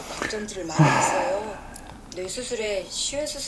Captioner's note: genuine sigh